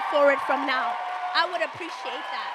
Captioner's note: audience cheers and applauds